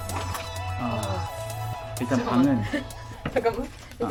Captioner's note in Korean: 한숨 같은 탄식 ㅋㅋㅋ